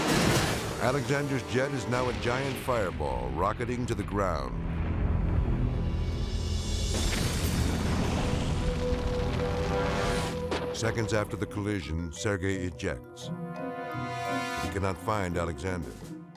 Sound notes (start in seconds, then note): 0.0 intense music; 4.5 tense music; 7.0 flames whooshing